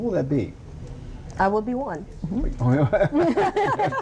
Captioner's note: laughter